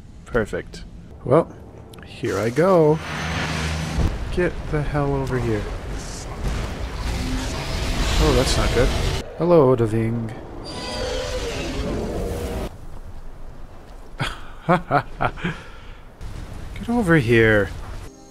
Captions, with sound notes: Perfect. Well... ...here I go. Get the hell over here. Oh, that’s not good. Hello, Odahviing. (laughs) Get over here!